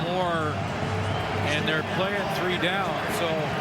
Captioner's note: cheering and Applause